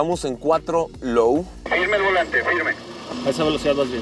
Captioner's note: voice on radio